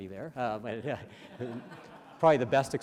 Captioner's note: audience laughs